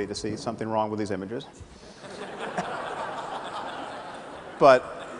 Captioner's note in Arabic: ضحك